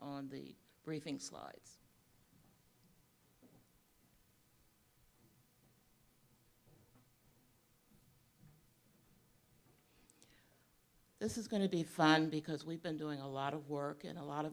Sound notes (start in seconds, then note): 4.7 pause